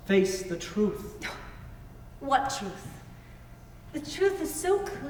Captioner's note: scoffs